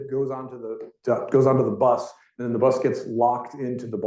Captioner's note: none